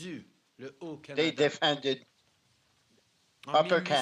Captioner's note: speaking french